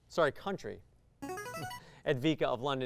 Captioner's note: signaling device tone